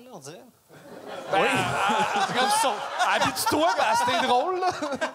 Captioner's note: laughs